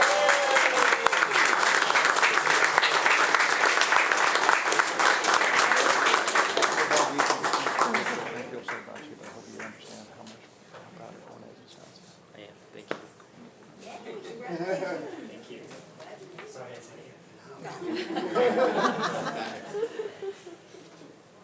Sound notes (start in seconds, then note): 0.0 attendees applauding and cheering; 7.2 speaks faintly; 11.3 speaks faintly; 16.7 speaks faintly; 17.9 everyone laughing